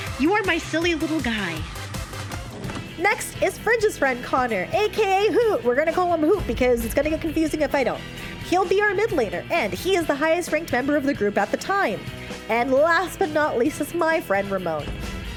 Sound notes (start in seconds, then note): 1.9 sfx: VHS tape ejection